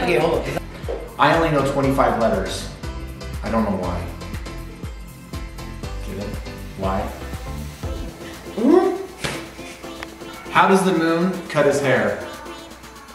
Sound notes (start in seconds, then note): 9.7 exclaims angrily